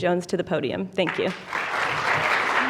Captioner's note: applause